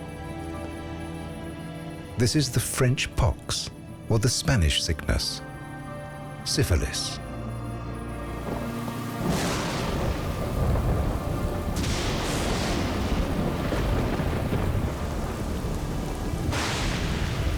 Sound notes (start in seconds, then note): 9.4 thunder crashing